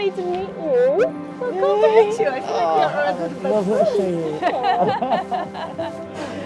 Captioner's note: laughing